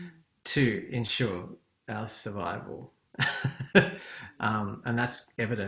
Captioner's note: laughs